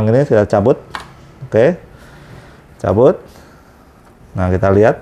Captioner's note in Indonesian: suara selang